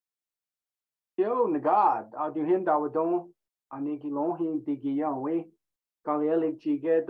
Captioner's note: speaking in Native language